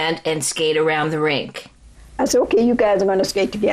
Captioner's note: soundbite of archived recording